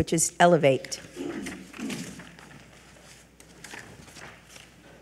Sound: papers rustling

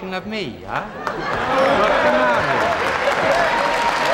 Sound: applause

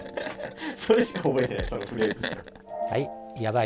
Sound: laughing

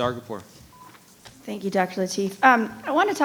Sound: microphone beeping

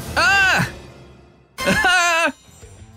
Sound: scream

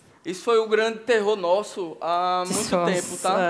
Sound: speaking Portuguese

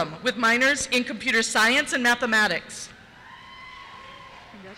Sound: cheers

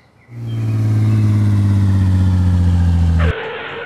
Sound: bus rumbles; skid

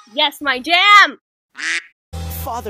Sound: quack

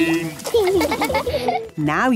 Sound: laughing

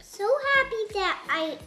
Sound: none

